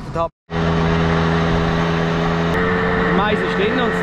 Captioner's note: engine noise